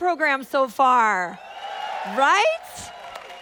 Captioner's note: audience applauding; audience applauding continues